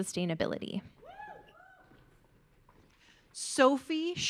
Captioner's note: audience cheering